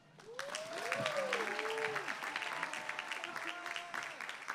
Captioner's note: applause